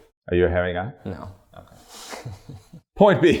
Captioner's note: chuckles